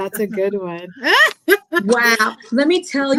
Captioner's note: laughs